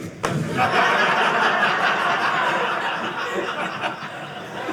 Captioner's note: audience laughing